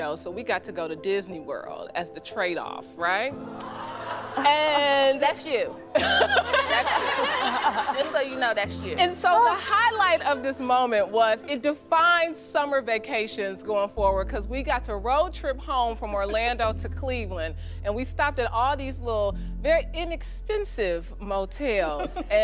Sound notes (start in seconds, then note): 6.0 audience laughing